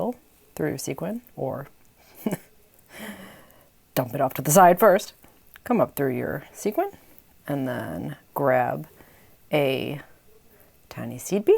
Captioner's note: small laugh